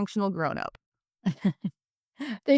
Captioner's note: laughs